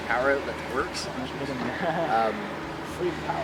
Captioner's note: laughing